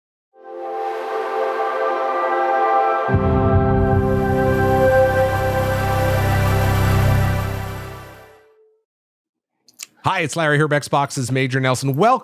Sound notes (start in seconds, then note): 0.4 xbox audio logo